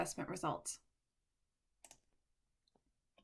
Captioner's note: click